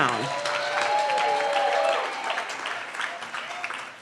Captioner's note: cheering